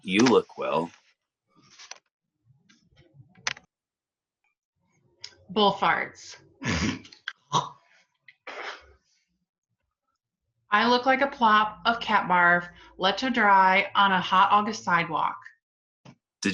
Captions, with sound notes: You look well. [clicking sounds] Bullfarts [sneezing] I look like a plop of cat barf, left to dry on a hot August sidewalk.